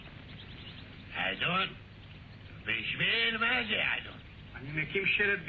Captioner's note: speaks Hebrew